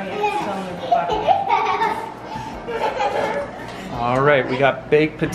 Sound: grandma chuckles; little kids laughing

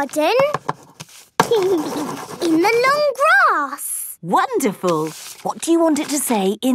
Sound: giggling

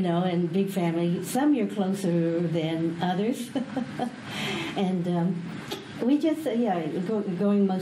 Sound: laughs

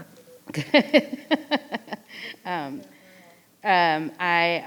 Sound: laughs

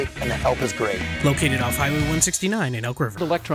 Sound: voiceover

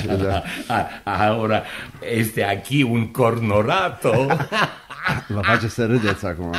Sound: laughs

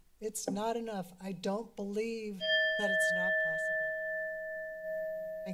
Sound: alarm

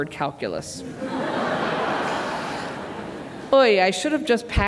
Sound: laughter

